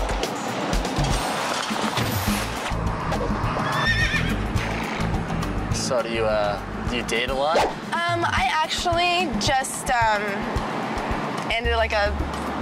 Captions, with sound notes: (horse neighs) - So do you date a lot? - I actually just ended a 14-month long relationship